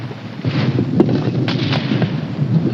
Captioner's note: machine gun fires